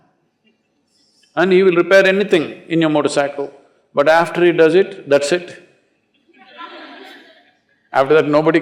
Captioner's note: laughter